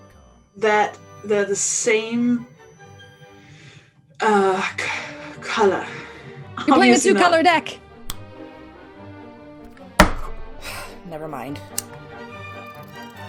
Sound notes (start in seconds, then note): 8.0 fingers snapping; 10.6 sighing; 10.9 bouncy upbeat music